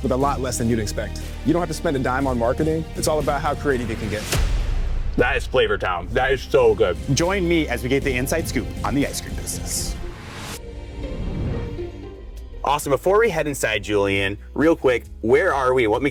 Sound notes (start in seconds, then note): 9.6 air whooshing; 10.4 inspiring music